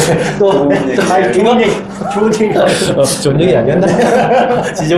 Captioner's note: laughing